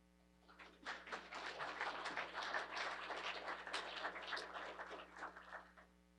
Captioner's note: applause